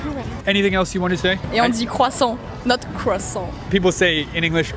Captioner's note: speaks in French